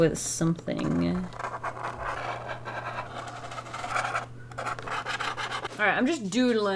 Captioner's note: pen dragging on the box